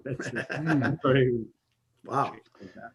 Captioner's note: laughs